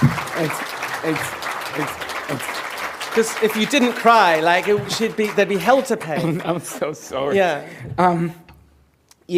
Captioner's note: applause